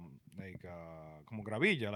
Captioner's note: speaking In Foreign Language